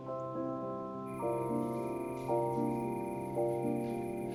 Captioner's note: insects chirping